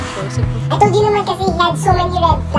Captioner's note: speaking conyo